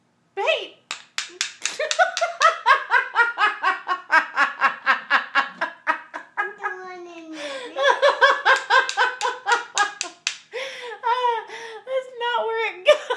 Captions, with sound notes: Hey!! Pbbt! hahaHAHAHAHAHAHAHAHAHAHAHAHAHAHAha "Another one in here..." [gasping for air] AHHAHAHAHAHAHAHAHAHA HAHAH A AH! That's not where it goes!